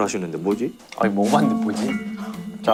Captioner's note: A not-so-confident tone